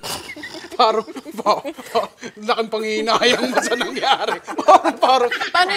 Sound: laughing; janella laughs

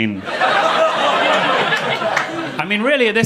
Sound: audience laughing

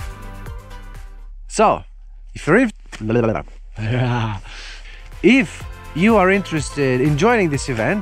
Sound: man blabbering with cold lips

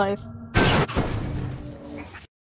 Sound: computer breaks

